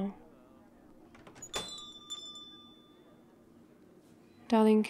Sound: coffee shop door opens - bell rings

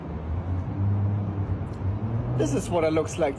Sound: car engine roaring softly

